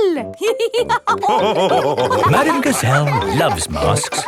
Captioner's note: all laughing